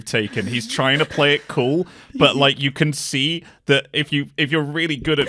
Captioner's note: laughter